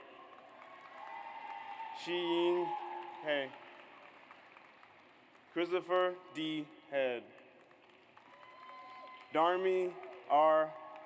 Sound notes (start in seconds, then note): 0.1 audience applauds; 7.6 audience applauds